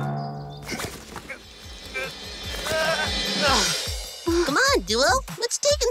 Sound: backpack rustling; backpack thuds; duo grunting

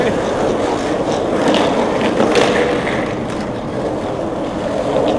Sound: skates grinding; laughs

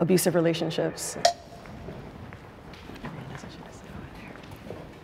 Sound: timer ticking

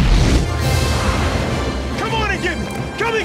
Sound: dramatic music; ship whooshes

